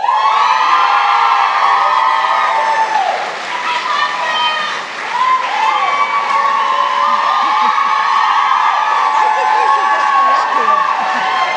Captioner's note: applause